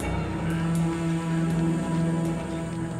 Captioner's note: prisoners chatter